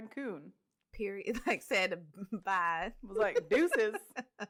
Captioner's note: laughs